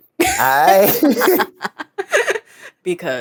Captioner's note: laugh